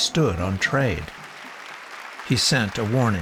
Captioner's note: audience applauding